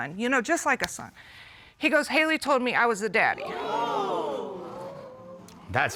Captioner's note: audience exclaims